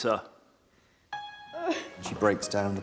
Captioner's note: Duncan cries